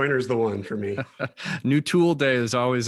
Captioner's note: laughing